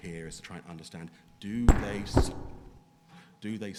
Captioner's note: microphone thudding